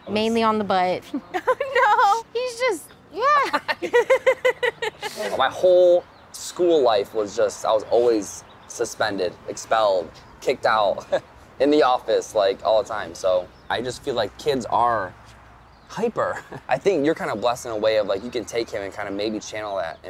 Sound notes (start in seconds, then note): 1.1 laughs; 3.3 all laughing; 16.2 chuckles